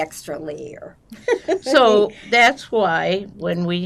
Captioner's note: laughing